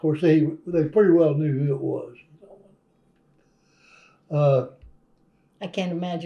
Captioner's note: laughs